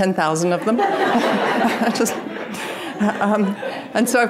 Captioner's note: audience laughing